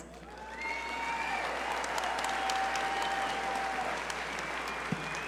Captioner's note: audience cheer and applaud